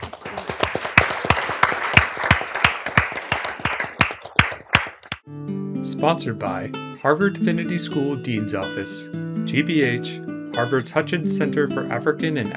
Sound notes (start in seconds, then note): 0.0 applause